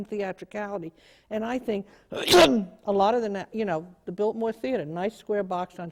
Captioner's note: coughing